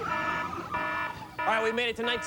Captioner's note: alarm ringing